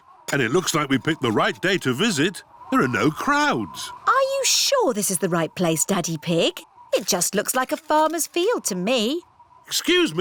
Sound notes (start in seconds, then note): none